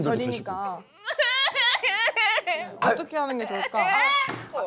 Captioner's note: sobbing / She’s too emotional now; wailing!